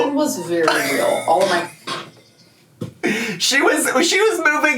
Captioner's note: laughs